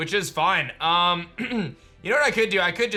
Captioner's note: clears throat